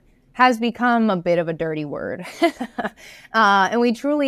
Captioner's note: laughs